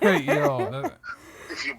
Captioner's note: laughing